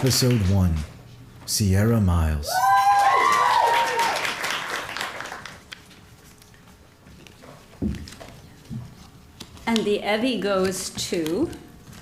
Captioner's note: applause